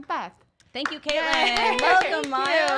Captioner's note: clapping